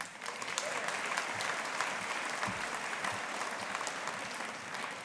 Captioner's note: audience applauding